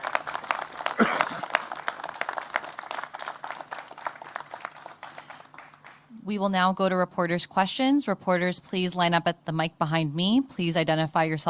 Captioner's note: applause